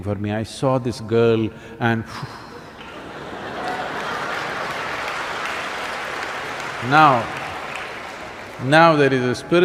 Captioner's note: laughter/Applause